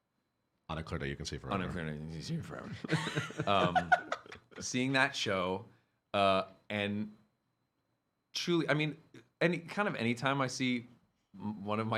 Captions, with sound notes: - On a Clear Day You Can See Forever. - On a Clear Day You Can See Forever. (laughing) Seeing that show, and kind of any time I see one of my siblings